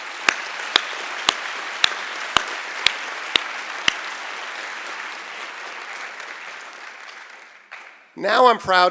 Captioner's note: applause